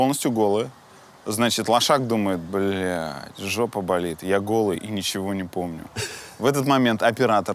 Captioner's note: chuckles